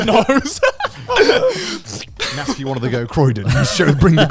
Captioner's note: laughs quickly